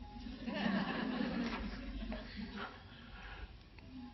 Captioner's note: audience laughing